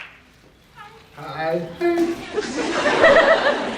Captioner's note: higher pitched; laughs